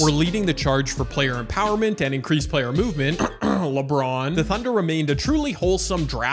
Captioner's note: cough